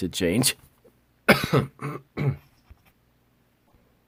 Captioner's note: coughing